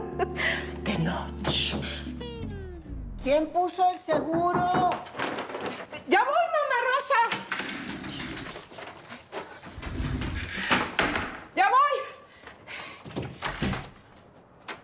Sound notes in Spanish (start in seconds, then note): 1.4 Llaman a la puerta